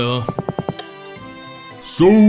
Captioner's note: lights switch flips